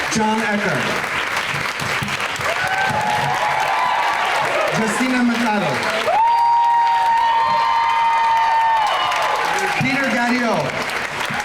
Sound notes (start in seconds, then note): 0.0 crowd cheering; 3.1 crowd cheering; 6.5 crowd cheering